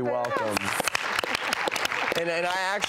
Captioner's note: applause